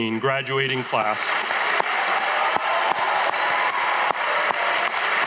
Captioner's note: audience applauding